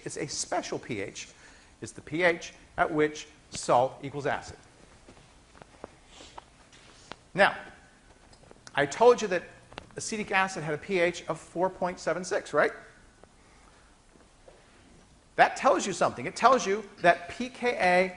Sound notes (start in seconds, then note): none